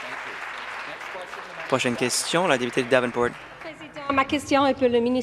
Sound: applause

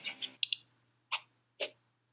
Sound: clicks

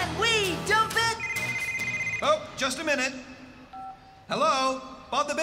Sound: cell Phone Ringing

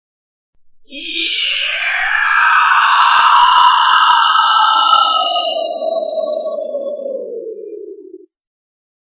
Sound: scream

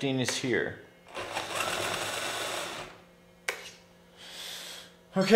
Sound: RC truck whirring

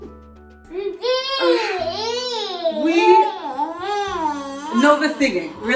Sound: baby exclaiming

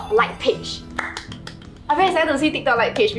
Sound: claps

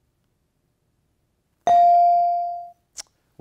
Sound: bell dings

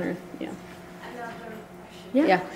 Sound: voiceover

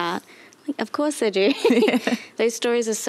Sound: chuckles

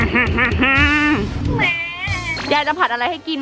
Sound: baby crying

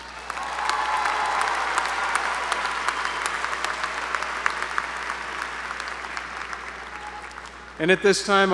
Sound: applause

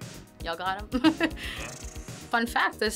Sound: chuckles

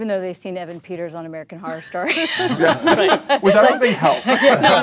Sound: laughs

